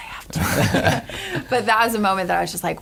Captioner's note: laughter